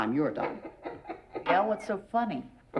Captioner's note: laughing